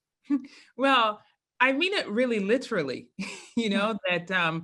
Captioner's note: laugh